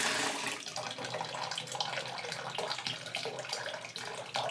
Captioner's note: water dripping